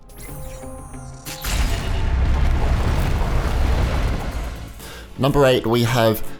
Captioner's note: explosion